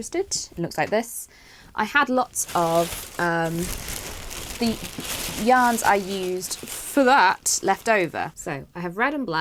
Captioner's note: rustling